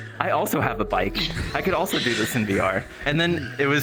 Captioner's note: cyclists laughing